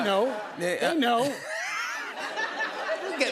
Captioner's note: laughter